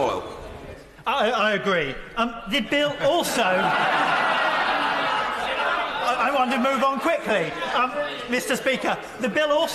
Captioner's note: laughter